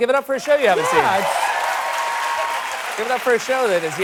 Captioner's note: cheers and applause